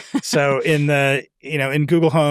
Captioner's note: chuckles